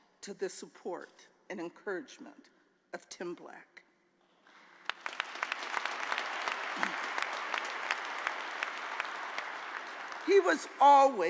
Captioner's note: applause